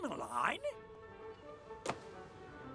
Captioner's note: door closes